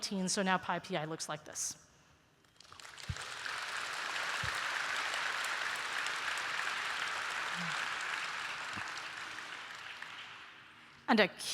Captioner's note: applause